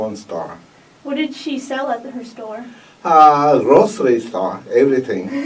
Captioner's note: laughs